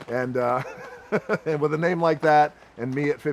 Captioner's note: laughs